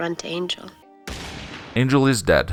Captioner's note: gun shot